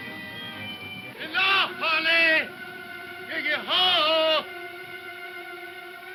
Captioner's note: shouting in foreign language